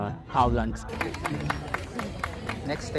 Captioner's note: aplausos